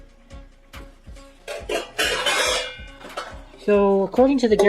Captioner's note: clang